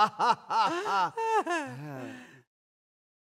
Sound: laughs more; sighs

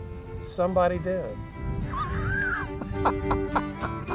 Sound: laughter

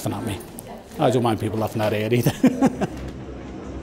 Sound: laughs

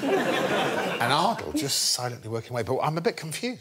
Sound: laughter

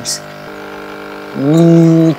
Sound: sound of a coffee machine

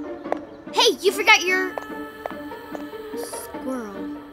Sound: footsteps; footsteps

